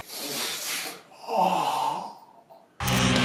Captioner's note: gasping